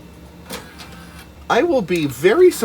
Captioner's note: sad CD eject noises